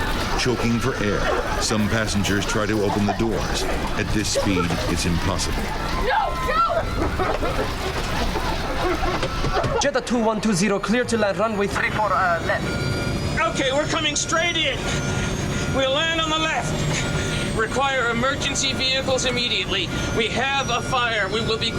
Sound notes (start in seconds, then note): 0.1 passengers coughing; 8.8 passengers coughing